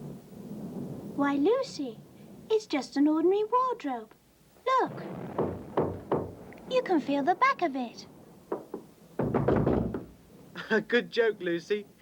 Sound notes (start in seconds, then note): 5.1 knocking on wood; 8.6 spirited thumping; 10.6 chuckles